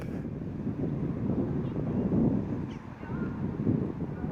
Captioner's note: wind blowing